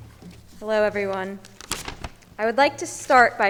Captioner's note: paper rustling